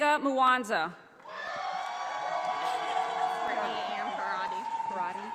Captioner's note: audience applauding